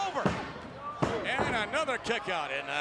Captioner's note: referee's hand thumping